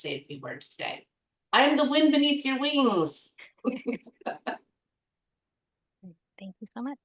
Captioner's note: laughs